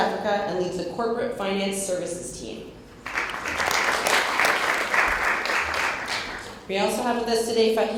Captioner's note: applause